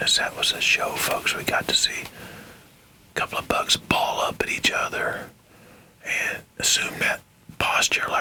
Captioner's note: whispering